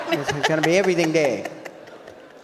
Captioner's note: audience laughs